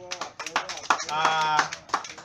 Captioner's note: clapping